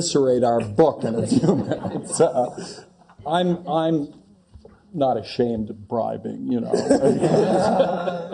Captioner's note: laugh